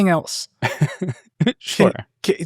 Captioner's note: laughing